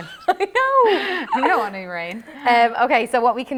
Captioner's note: laughter